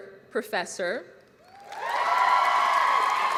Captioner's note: applause